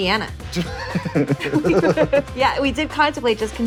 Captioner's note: laughter